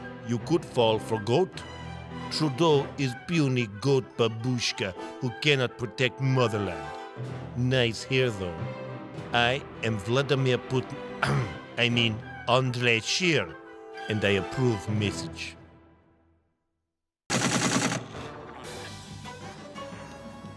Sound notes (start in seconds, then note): 11.2 cough